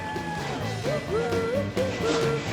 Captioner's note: cheering